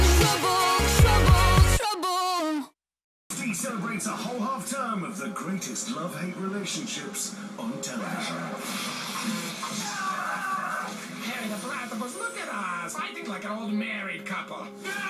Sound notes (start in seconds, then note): 9.8 screaming?